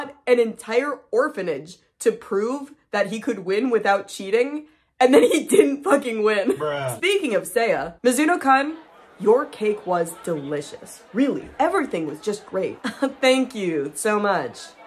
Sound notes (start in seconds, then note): 4.8 laughing